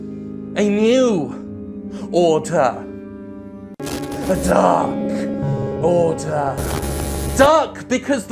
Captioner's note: distortion